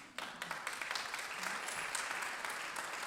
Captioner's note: applause